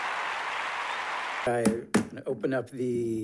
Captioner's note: gavel pounding